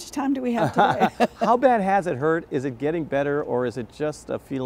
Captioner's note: laughing